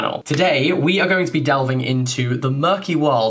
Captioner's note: none